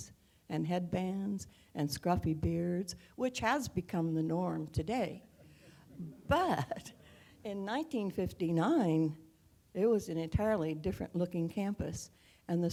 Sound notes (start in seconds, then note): 5.4 laugh